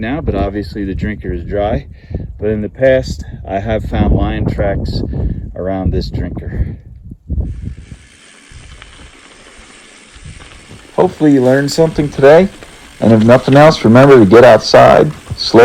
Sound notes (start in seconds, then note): 7.5 bike buzzing